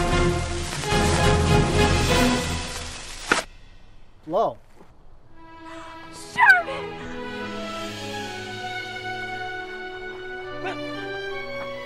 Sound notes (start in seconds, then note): 0.0 dramatic orchestral music; 3.3 popping; 7.4 sentimental orchestral music